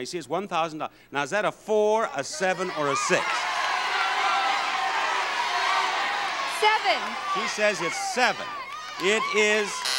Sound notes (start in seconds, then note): 2.3 audience yelling; 9.7 buzzer buzzes